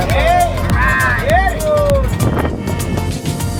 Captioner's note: cheering